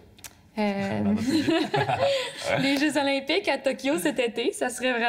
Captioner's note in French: rires